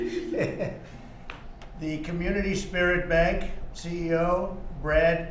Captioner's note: laughs